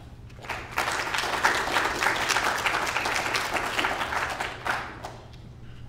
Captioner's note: applause